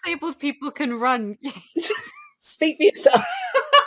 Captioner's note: laughing; laughs